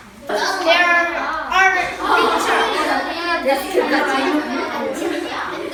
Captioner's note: children talking and yelling